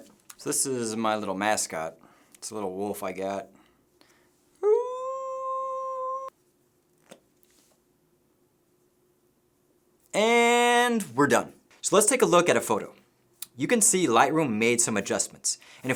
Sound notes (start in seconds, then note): 4.6 howling